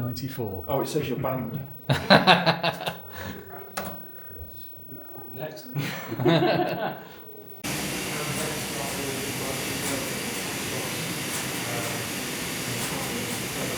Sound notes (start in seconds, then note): 1.9 laughter